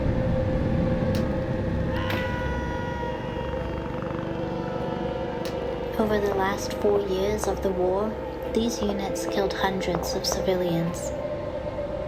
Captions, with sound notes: [person screaming] Over the last four years of the war, these units killed hundreds of civilians.